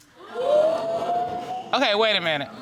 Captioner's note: crowd gasping